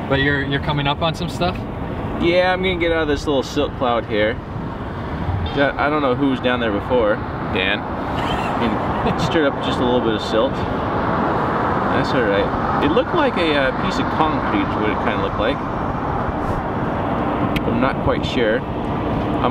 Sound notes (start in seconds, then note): 8.1 laughs